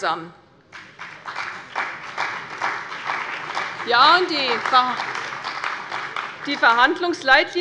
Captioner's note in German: Beifall bei der CDU und dem BÜNDNIS 90/DIE GRÜNEN